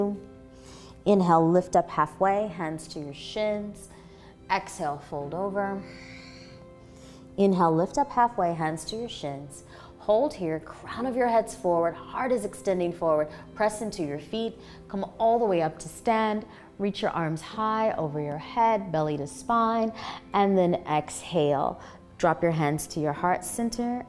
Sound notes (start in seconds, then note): 5.8 exhaling